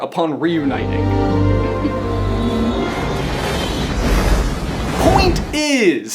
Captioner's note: peaceful music; meteor striking